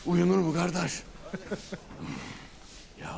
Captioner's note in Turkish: Gülme sesi